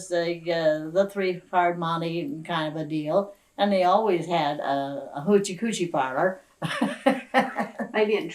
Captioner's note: laughs